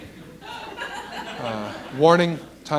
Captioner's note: laughter